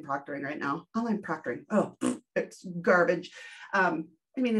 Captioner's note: blowing raspberry